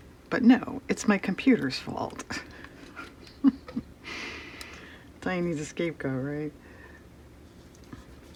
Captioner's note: laughs